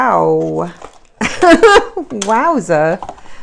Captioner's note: laughs